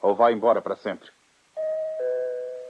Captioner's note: doorbell rings